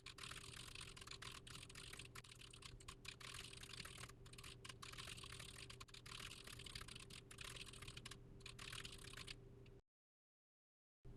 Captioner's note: typing sounds